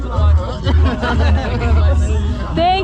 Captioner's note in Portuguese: risos